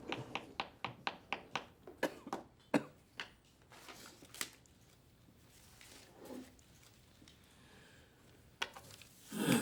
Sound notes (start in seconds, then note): 0.2 cards tapping; 2.0 George coughs